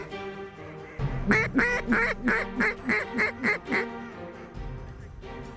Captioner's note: duck calls